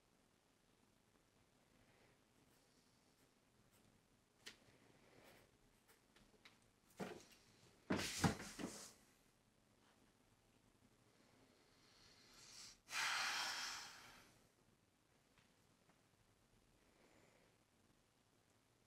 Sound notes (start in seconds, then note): 2.4 pencil strokes; 7.7 thump; 10.7 slow deep sigh